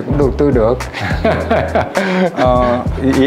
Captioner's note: laugh